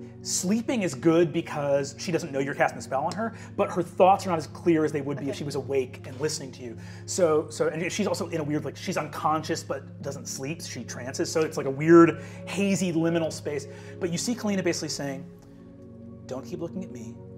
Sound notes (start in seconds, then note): none